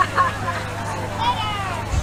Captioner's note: laughing